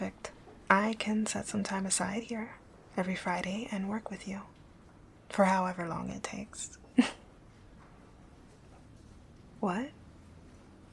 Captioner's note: laughing